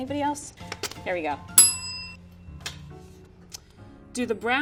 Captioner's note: bell rings